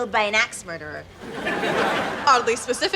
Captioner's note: laughs